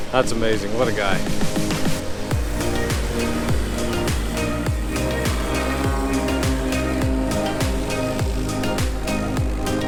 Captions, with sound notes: That's amazing, what a guy! (soft music) (plane whizzing)